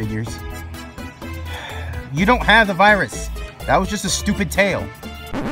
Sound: sigh

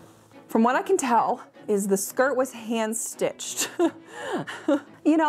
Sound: laughs

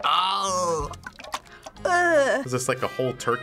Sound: contents sloshing; groans in disgust; sloshing

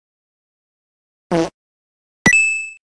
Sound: pfft

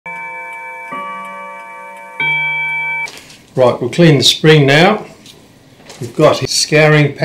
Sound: clock chiming

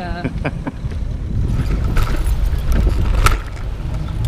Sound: laughs

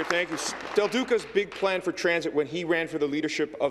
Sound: applause

